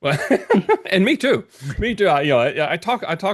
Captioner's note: laughing